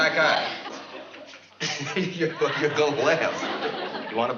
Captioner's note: laughs